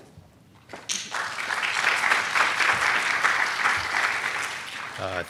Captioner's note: applause